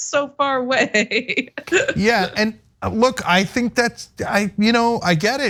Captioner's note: laugh